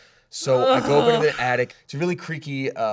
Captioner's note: groans